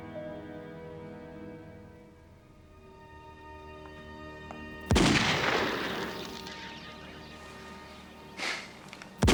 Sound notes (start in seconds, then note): 4.8 gunshot blasting; 6.9 birds squawking